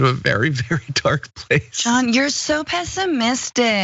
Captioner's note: laugh